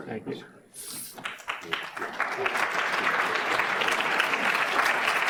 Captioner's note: audience claps